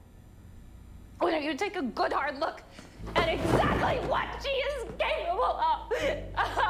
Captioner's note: shouting